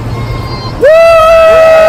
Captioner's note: cheers